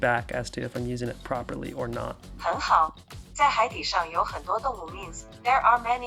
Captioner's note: Chinese